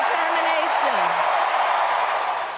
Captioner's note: applause